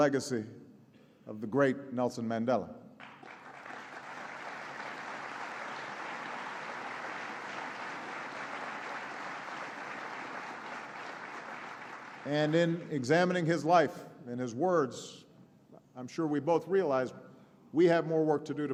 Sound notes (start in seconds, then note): 3.0 applause